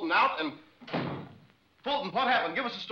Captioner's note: door slams